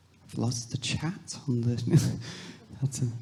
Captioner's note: laughs